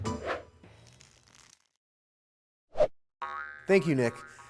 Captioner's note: screen swooshing; spring pinging